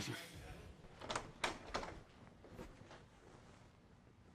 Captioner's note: door opens